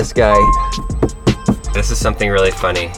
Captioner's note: tapping